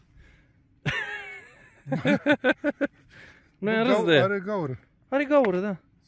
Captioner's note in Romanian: Râsete